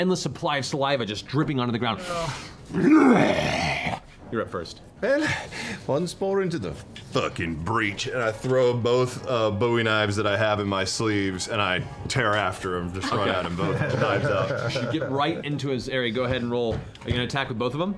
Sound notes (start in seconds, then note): 2.7 roars; 6.6 deep voice